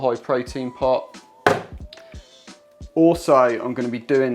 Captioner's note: container knocks